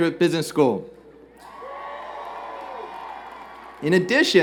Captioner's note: cheers and Applause